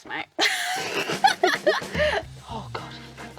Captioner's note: both laughing